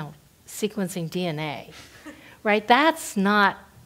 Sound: laugh

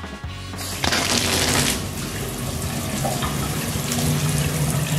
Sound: water rushing

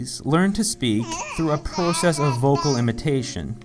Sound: baby babbles

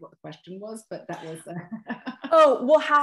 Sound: laughter

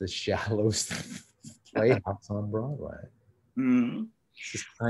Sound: chuckles

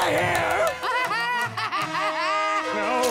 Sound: laughing

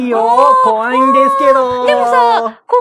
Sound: laughs

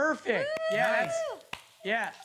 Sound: cheering

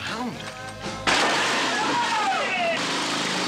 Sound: shouting

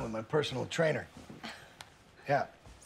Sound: chuckles

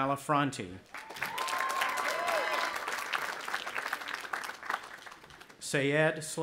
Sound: audience applauding and cheering

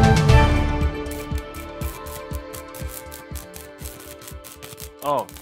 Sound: news music; electrical arching

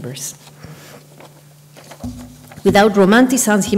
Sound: papers rustle

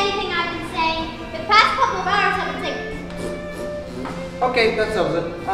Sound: more raspberry sounds

